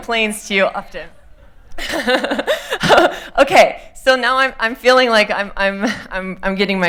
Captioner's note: laughter